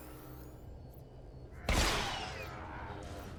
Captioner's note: gun firing